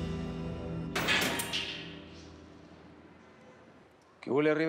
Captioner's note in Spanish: ruido al abrir